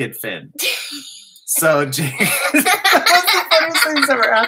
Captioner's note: laughter